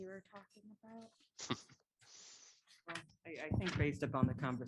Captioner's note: laughter